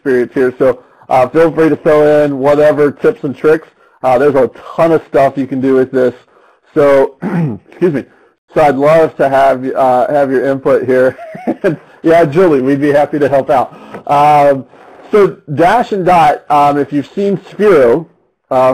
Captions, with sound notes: Feel free to fill in whatever tips and tricks. There's a ton of stuff you can do with this. (coughs) Excuse me. I'd love to have your input here. (laughs) Yeah Julie, we'd be happy to help out. Dash and Dot, if you've seen Spiro for sorta older grades.